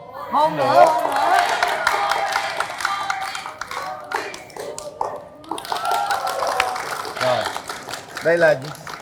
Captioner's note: applause